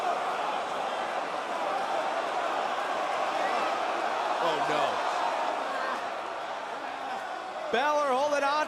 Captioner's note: crowd chatter